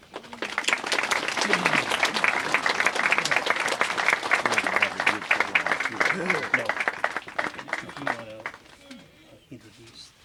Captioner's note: applause